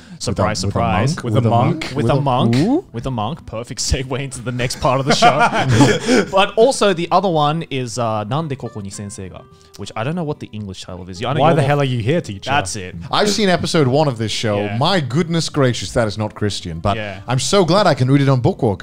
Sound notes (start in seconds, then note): 8.6 foreign language